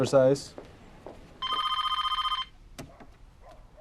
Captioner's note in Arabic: هاتف RlNGlNG